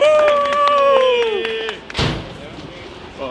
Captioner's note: team cheering halfheartedly